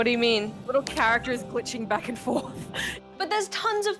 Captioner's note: laughs